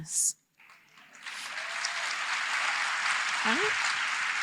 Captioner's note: applause